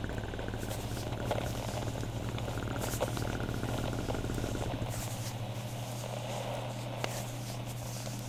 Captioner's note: back rub begins fx